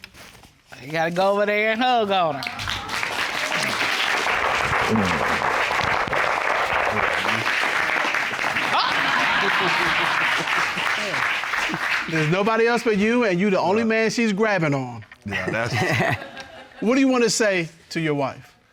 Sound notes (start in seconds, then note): 2.1 audience applauding, cheering; 8.6 chuckles; 15.3 chuckles